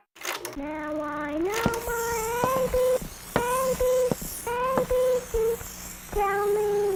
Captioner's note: record skipping